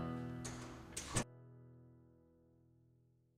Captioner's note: door closes, silence